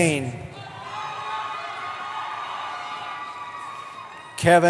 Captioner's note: cheering